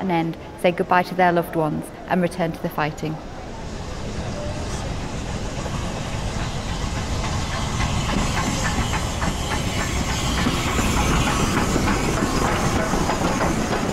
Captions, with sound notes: say goodbye to their loved ones and return to the fighting. (STEAM HISSES) (ENGINES CLATTER)